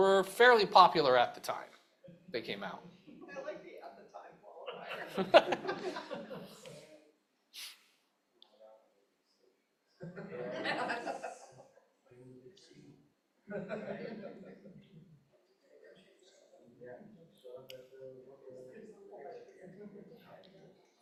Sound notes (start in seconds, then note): 4.6 chuckles